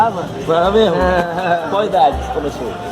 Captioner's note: giggling